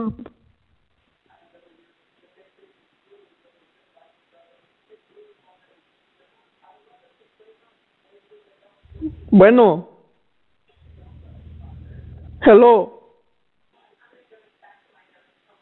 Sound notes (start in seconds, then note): 6.1 speaking foreign language